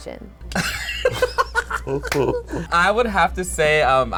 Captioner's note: laughs